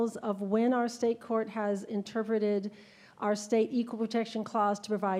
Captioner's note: none